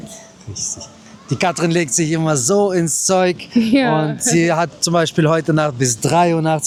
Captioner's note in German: gelächter